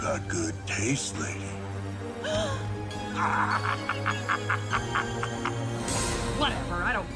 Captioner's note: evil laugh